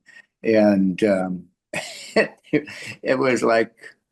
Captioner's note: laughs